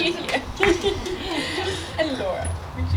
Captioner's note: clapping; laughter